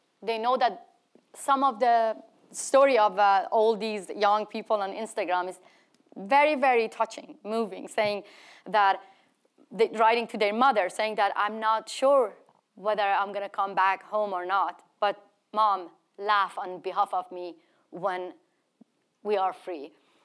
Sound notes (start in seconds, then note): none